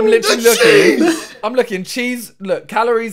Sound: all laughing

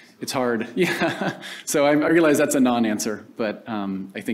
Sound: laughs

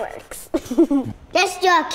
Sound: giggles

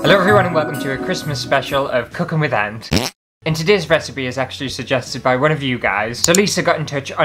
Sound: fart!

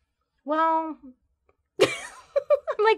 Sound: laughs

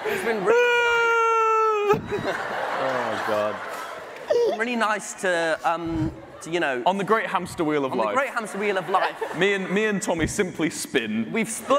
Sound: laughter

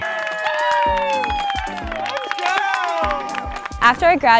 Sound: group cheering

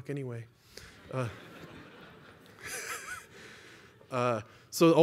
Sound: laughter

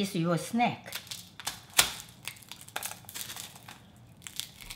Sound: nuts cracking

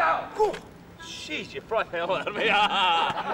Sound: laughing

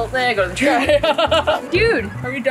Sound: laughs

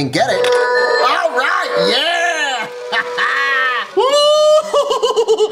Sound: machine powering; laughs

